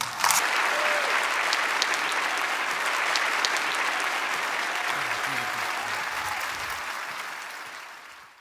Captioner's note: applause